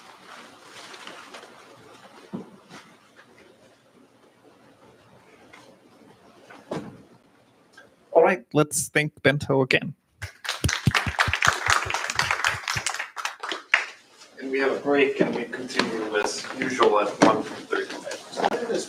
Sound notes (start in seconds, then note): 10.2 applause